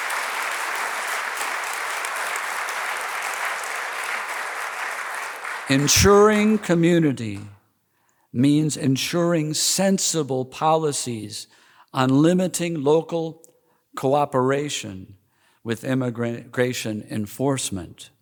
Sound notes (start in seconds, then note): 0.0 applause